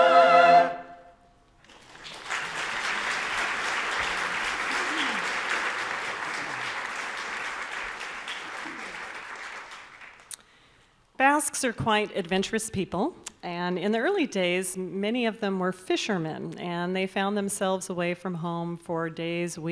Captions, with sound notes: (audience applauding) Basques are quite adventurous people. And in the early days, many of them were fishermen and they found themselves away from home for days,